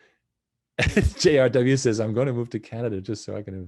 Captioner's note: laughs